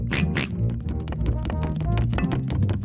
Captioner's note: snorts; george oinks